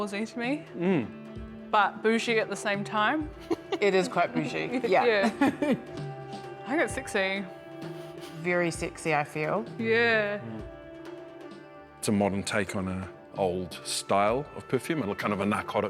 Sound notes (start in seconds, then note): 3.3 giggles